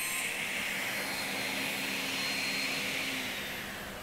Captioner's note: saw noise stops